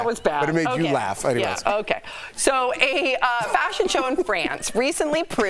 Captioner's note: laughter